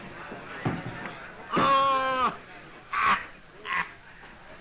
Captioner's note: laughing